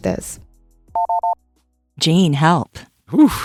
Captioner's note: phone rings